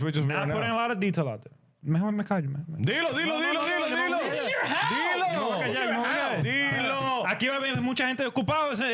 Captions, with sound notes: Nah, I'm putting a lot of detail out there. (Speaking In Foreign Language)